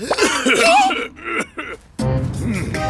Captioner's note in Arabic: صوت الحكة